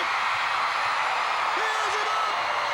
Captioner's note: crowd cheering